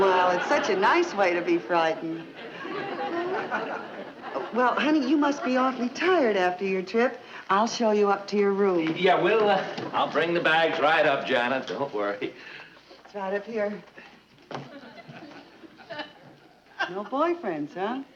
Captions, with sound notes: - Well, it's such a nice way to be frightened. (audience chuckling) Well, honey, you must be awfully tired after your trip. I'll show you up to your room. - Yeah, we'll, I'll bring the bags right up, Janet, don't worry. - Janet, here. (audience chuckling) - No boyfriends, huh?